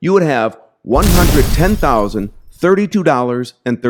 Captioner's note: explosion booms